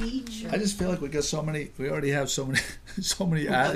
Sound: voiceover

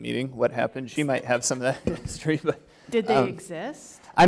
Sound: chuckle

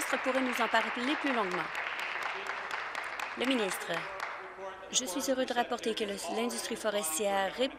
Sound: applause

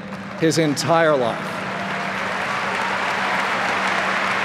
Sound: applause

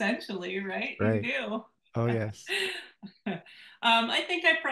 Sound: laughs

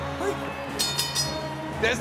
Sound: bell rings

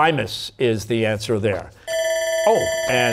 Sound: bell ringing

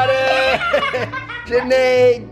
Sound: shouting and laughing

